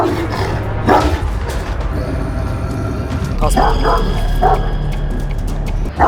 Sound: barking, growling sounds and suspenseful music

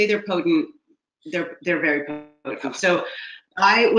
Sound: laughs

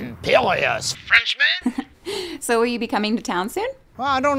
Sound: laugh

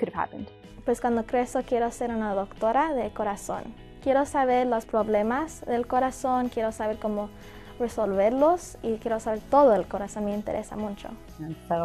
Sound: Spanish

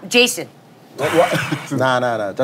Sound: is sighing

